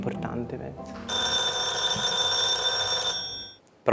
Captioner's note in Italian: squilla il telefono